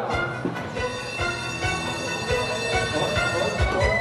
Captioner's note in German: Straßenbahn klingelt